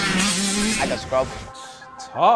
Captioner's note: scoffs